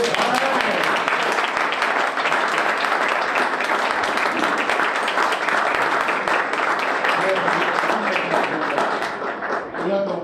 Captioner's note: applause